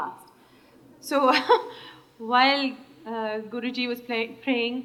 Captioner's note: laughs